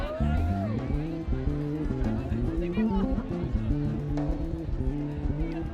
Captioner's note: students cheering and laughing